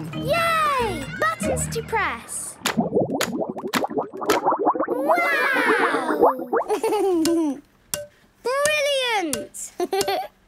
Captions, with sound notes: - Yay! Buttons to press! - (bubbling) - Wow! - Click, clack! - Brilliant! Hee, hee!